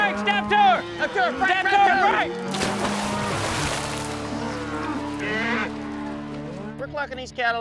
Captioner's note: shouting, cow splashing, mooing